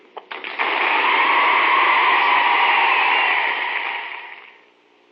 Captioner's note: cheers and applause